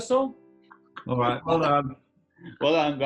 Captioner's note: laughing